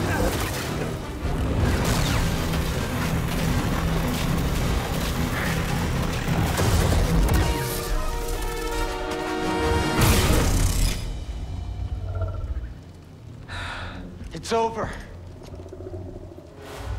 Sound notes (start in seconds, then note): 13.4 sigh